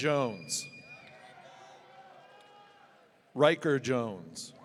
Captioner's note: audience cheering